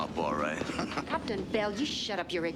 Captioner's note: laughs